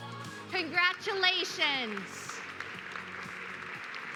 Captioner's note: applause